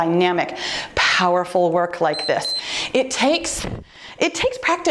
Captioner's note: timer beeps